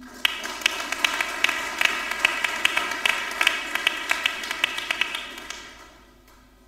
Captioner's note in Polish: oklaski